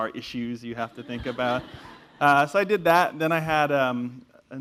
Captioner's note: laugh